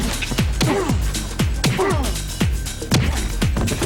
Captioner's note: grunting